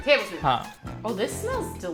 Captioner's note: speaking in Hindi